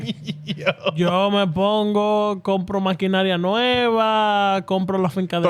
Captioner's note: laughing; speaking In Foreign Language